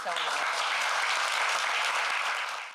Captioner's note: applause